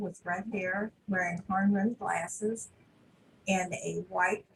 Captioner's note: audio is distorted